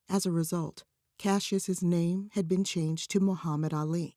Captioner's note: none